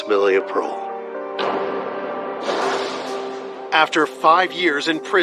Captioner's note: gavevel l bangngs